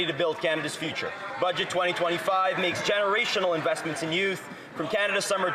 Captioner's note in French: voix de l'interprète